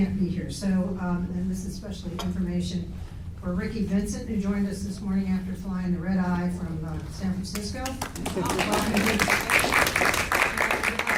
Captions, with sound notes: be here so, and this is especially information for Ricky Vincent who joined us this morning after flying the Red Eye from San Francisco. (applause)